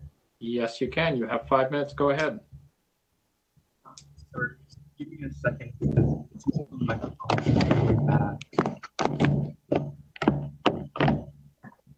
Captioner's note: speaker off mic